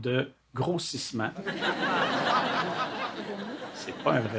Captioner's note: laughs